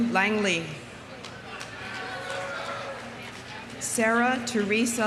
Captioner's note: audience applauding